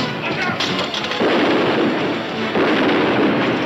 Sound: gun firing

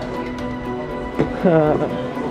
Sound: sighs

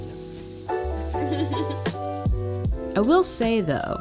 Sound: laughing

